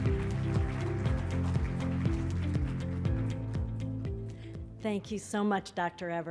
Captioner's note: applause